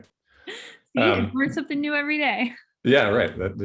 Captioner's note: chuckling